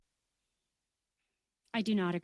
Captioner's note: speaking French